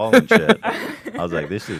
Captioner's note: laughs